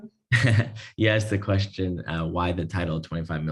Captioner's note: laugh